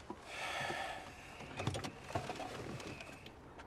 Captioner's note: Loz sighs